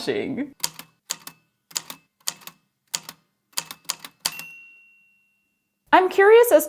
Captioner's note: A typewriter clicks away, then dings